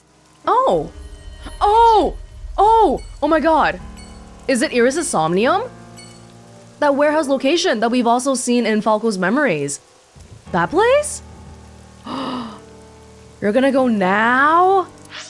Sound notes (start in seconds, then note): 11.7 gasps